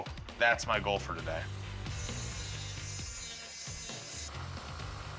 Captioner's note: grinding